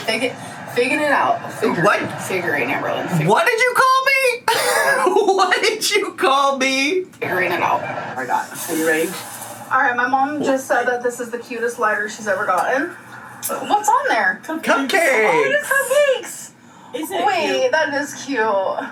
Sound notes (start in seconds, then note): 4.5 laughs